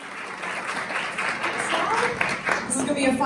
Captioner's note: audience claps